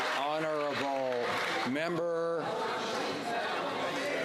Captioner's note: some Applause